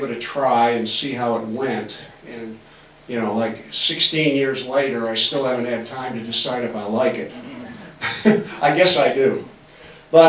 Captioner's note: laughs